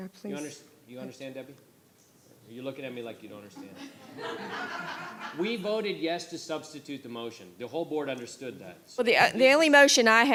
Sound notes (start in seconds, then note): 3.5 laughter